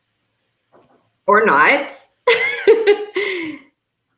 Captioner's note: chuckling